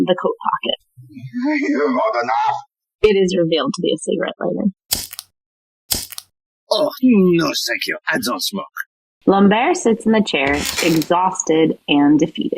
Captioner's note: it is revealed to be a cigarette lighter - the lighter clicks twice